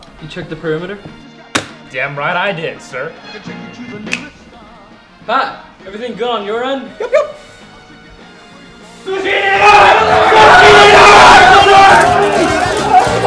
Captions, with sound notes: You check the perimeter? Damn right I did, sir! Pat, everything good on your end? Yup yup! [INCOHERENT SCREAMING]